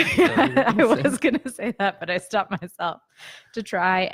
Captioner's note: laughs